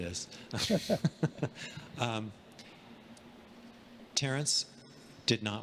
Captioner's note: both laughing